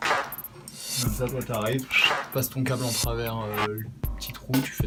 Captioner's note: whistles